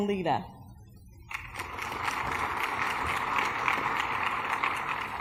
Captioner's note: applause